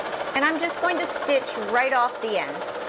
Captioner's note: sewing machine whirring